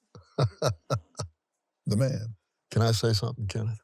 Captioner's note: laughs